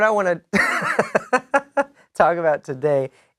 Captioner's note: laughing